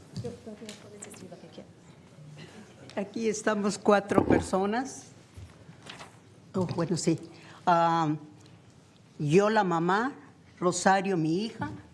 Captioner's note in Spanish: habla español